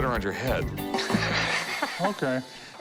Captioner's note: laughs